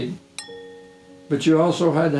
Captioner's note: bell pinging